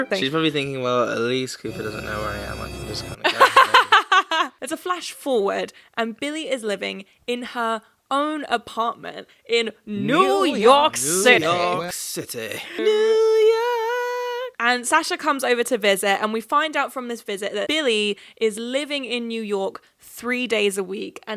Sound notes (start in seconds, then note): 3.2 laughing